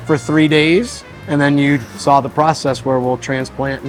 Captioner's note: plant medicine whooshing